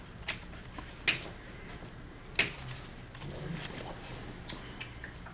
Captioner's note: chalk clicking on board